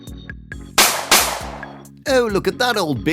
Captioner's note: bang bang!